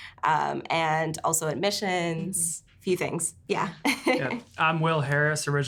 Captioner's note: laughs